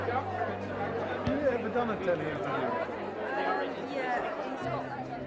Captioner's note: crowd chattering